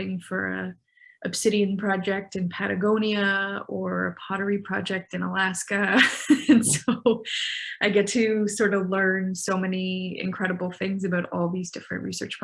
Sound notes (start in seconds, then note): 6.4 laughing